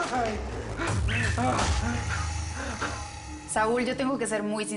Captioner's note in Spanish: Quejidos